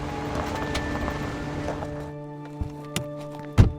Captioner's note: car driving over gravel; car pulls to a stop; car door shuts